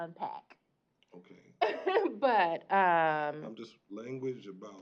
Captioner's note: chuckle